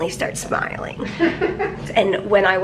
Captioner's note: laughing